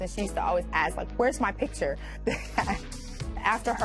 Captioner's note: laughs